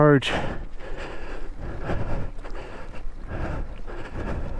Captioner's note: breathing heavily